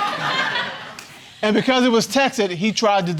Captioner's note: audience laughing